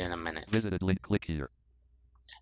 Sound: screen reader voice

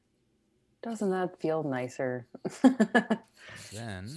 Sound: laughs

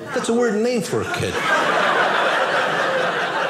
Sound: audience laughing

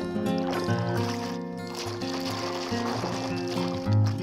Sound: waves crashing

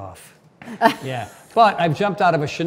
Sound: Cynthia laughs

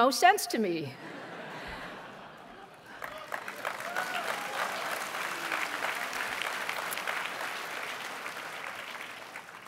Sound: applause

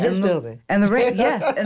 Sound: laughs

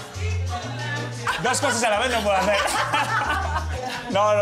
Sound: laugh

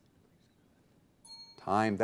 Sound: timer dings

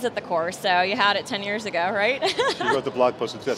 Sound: laughs

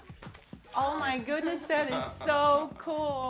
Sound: all chuckle

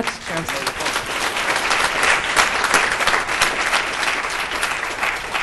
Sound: audience applauds

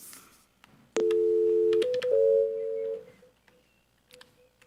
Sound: phone beeping

